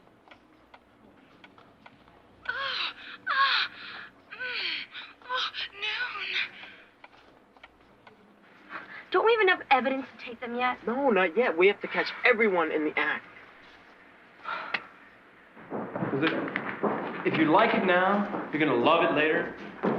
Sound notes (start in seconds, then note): 1.9 wall clock moaning